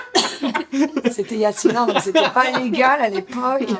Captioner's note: laughter